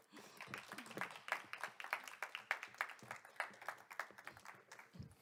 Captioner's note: applause